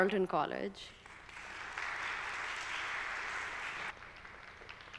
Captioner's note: audience applauding